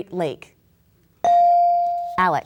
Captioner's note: bell dinging